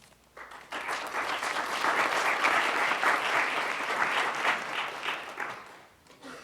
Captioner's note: audience clapping